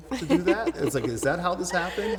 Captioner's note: laughing